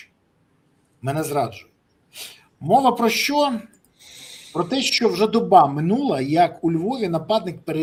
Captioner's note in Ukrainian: сопіння